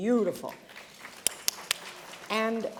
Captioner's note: applause